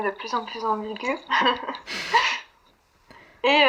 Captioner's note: laughs